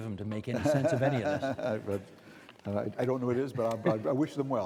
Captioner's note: laughing